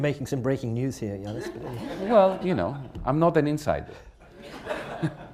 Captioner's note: laughter